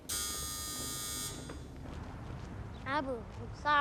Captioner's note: buzzing